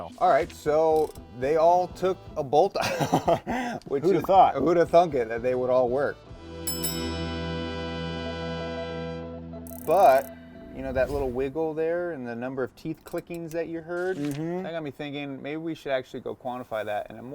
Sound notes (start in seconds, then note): 2.8 laughs; 6.6 bell dings